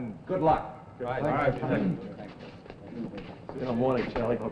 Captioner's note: men murmuring